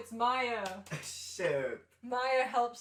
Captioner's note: laughing